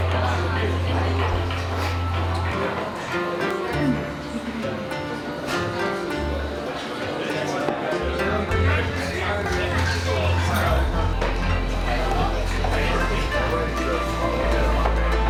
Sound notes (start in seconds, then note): 0.1 people chattering; 7.6 people chattering